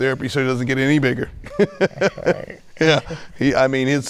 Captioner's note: laughing